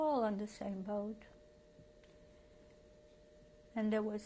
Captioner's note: pauses for 3 seconds